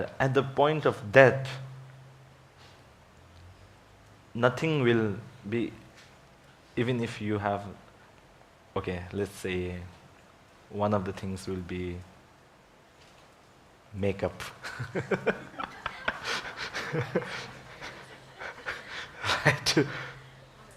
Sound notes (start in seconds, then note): 14.5 laughing; 14.6 audience laughs; 14.9 woman speaks faintly